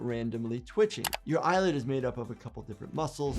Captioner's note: keyboard keys clicking